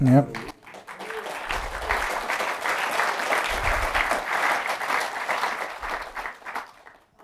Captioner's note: applause